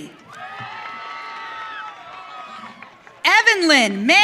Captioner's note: audience cheering